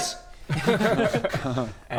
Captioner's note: cocky laughter